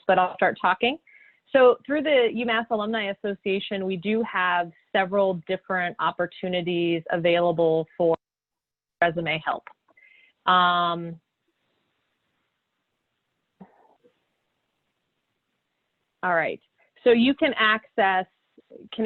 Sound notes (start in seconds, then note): 8.3 sound loss